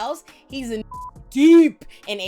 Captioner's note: beep